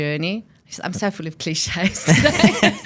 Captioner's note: laughs